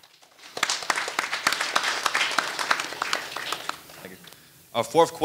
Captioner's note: audience applauding